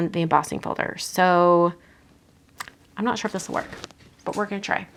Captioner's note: clicks tongue